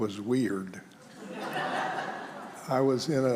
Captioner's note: congregation laughs